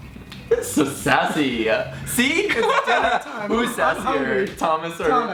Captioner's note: laughing